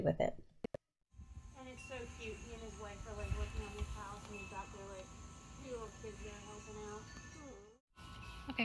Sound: windchimes and birdsong

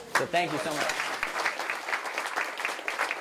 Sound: applause

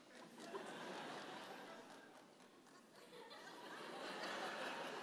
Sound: audience laughing

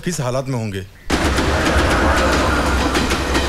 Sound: train rumbling

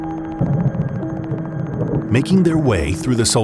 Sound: thunder rumbling

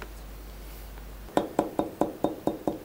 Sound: soft hammering

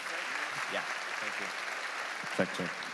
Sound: congregation applauding

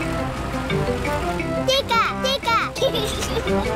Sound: giggles

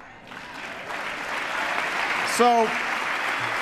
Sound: applause

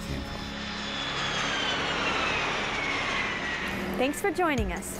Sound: sound of large airplane flying overhead

